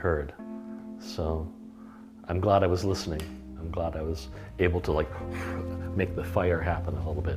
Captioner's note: blows air